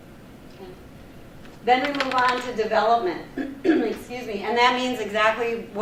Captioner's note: clears throat